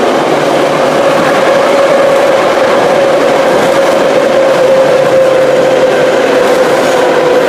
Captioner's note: braking